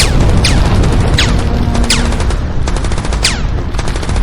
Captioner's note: explosions booming; guns firing